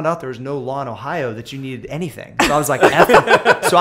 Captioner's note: laughter